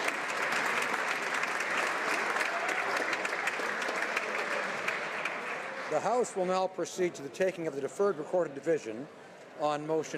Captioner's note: some Applause